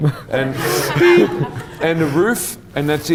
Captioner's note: audience laughs